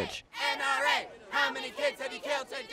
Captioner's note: crowd